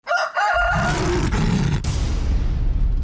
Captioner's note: rooster crows; lion roars; loud bang